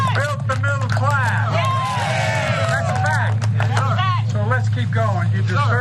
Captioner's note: applause